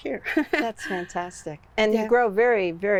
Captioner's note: laughs